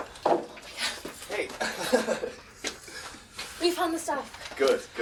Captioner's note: risas